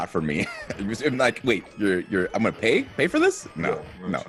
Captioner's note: laugh